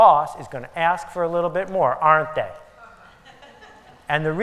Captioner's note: laughter